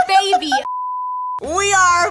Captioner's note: laughs